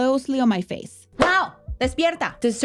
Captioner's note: clap hands